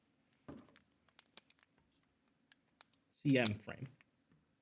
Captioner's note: marker clacks